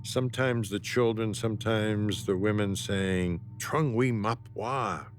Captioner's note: speaking foreign language